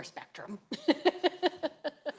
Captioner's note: laughs